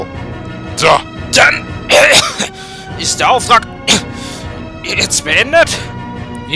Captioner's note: cough